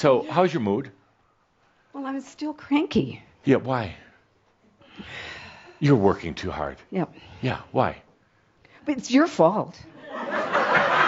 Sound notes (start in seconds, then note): 4.8 she sighs